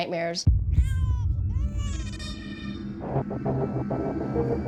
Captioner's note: crying